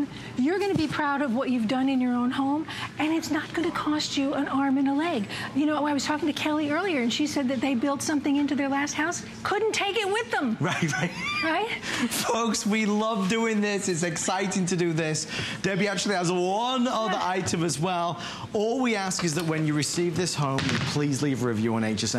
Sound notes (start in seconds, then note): 13.3 laughter